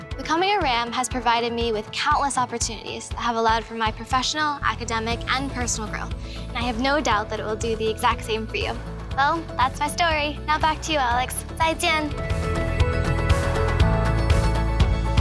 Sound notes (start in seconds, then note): 11.6 speaking Mandarin; 12.4 bright music